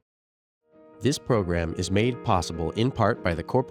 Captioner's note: voiceover